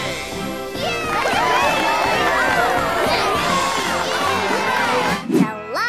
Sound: cheering

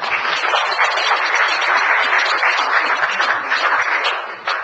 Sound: audience applauds

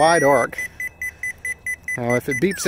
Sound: beeping tone

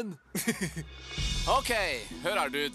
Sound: laughs

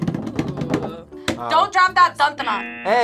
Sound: buzzer

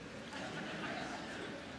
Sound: laughter

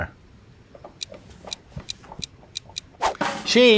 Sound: ticking

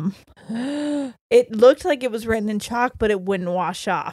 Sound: gasps

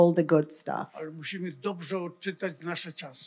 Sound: foreign language

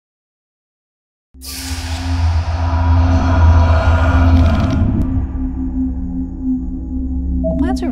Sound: sound Effects

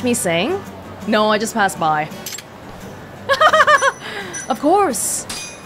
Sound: chuckles

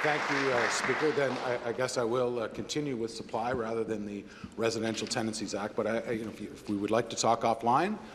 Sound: applause

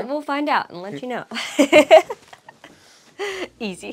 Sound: laughs

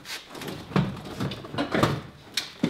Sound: banging

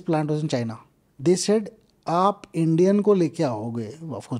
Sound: speaks in Hindi

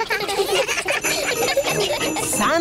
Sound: all giggling

